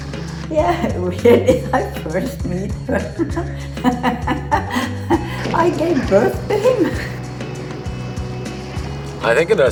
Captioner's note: laughing